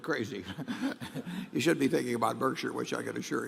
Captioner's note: laughs